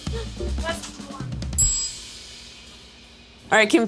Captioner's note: bell rings